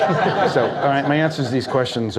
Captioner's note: audience laughs